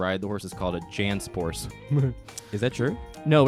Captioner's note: chuckles